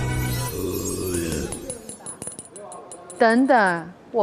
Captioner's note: Listen to the sound of double Golden Keys clinking